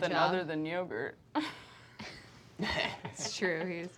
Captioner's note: laughs